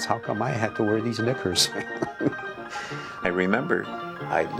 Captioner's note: laughs